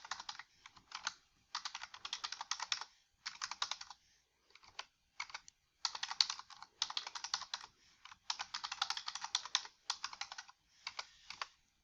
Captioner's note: typing on keyboard